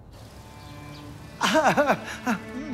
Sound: Roy sobbing

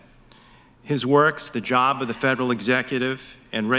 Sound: none

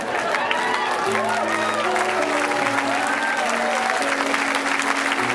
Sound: audience applause

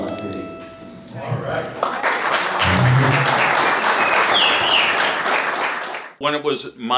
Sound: applause

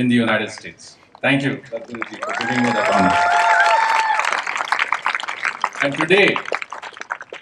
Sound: cheering/Applause

